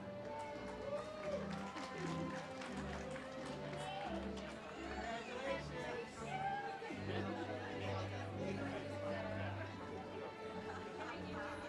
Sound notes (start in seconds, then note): 0.2 audience cheers; 8.5 ceremonial music